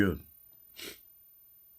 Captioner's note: scoff